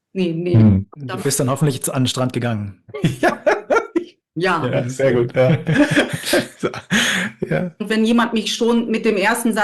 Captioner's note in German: gelächter